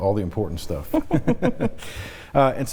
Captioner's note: laughs